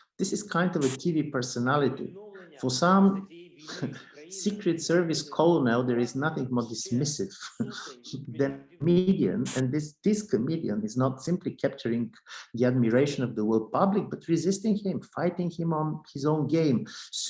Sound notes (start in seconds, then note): 3.6 chuckles; 7.4 chuckles